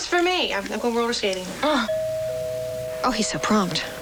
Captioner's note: doorbell ringing